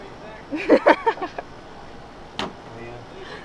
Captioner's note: laughs